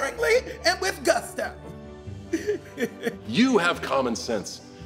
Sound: chuckles

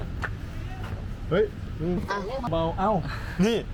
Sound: sounds like someone calling out

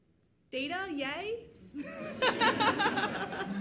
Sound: audience laughs; laughs

